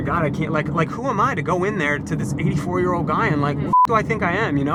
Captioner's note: beep